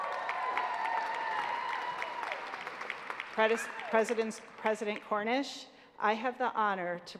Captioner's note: applause